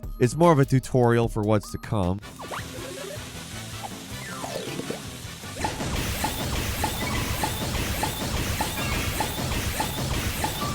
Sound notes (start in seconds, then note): 2.6 game play music; 5.6 electronic bubbles popping